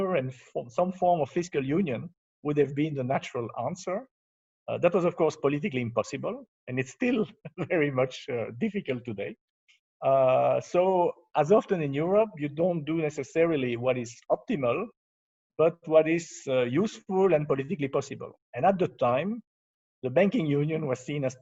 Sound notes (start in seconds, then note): 7.4 laughs